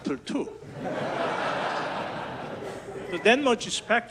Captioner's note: audience laughs